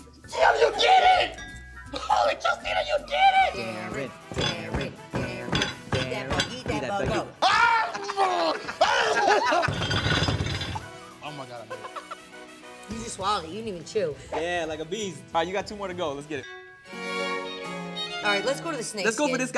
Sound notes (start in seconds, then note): 7.4 screaming